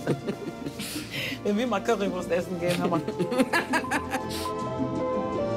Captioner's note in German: Er lacht; Getragene Musik